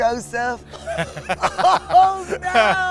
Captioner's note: laughter